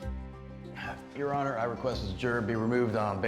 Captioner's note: sighs